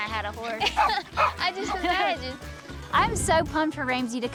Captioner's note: laughs